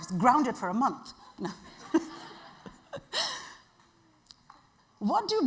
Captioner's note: audience laughing